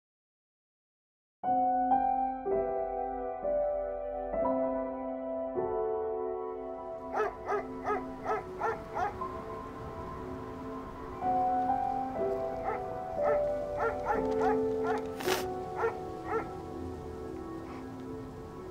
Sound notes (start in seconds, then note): 7.1 dog barking; 14.8 sniffing